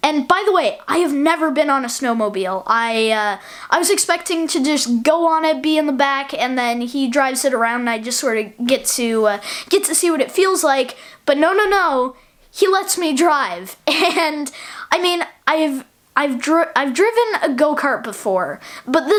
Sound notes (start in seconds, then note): 14.6 laughs